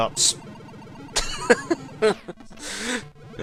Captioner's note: laugh